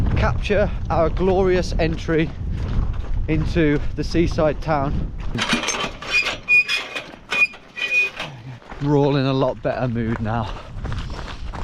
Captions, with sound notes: capture our glorious entry into the seaside town. (metal clanking) We're all in a lot better mood now.